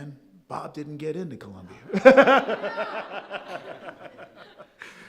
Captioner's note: all laughing